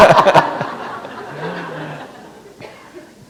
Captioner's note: laughter